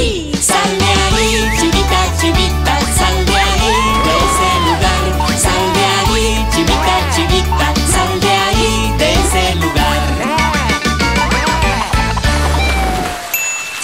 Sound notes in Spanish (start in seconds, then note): 1.3 Silbido; 3.6 Gritos; 10.1 Música alegre